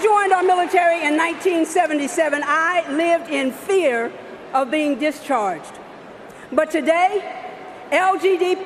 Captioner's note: cheering and applause